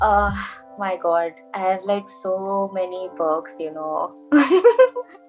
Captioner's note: laughs; saying sarcastically